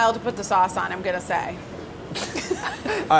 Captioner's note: laughs